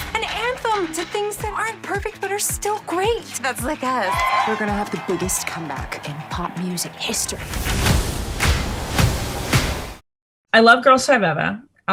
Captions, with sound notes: An anthem to things that aren't perfect but are still great! - That's like us. (crowd cheering) - We're going to have the biggest comeback in pop music history. (upbeat music) - I love "Girsl5Eva".